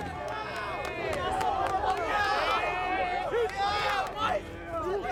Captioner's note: cheers and chatter